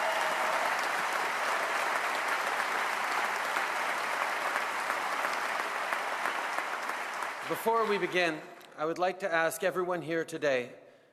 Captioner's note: applause